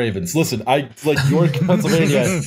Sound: laughter

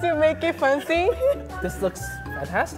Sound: laughing

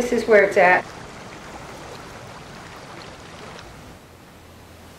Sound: water splashing

